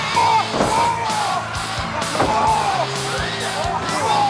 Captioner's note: wrestlers shouting